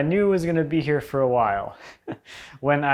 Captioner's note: chuckles